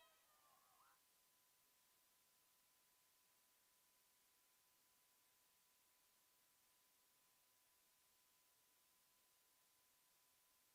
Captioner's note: screaming